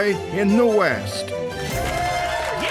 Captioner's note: all cheering